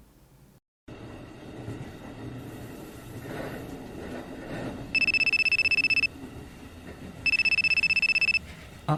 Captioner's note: ringtone